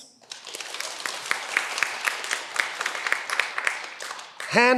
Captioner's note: cheering